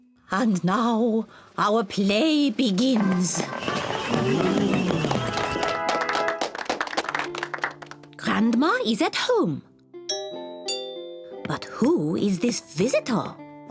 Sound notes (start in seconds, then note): 3.0 all gasp, applaud; 10.1 doorbell rings